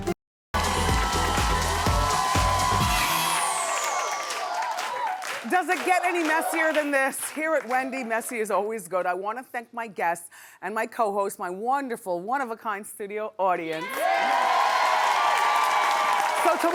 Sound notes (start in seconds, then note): 0.5 upbeat music; 3.6 cheering; 13.7 cheering